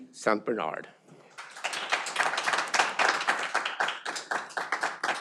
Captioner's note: audience applauding